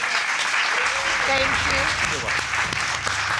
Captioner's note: audience applauding